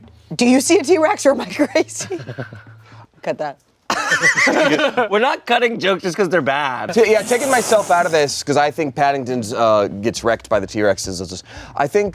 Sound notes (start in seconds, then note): 4.2 everyone laughs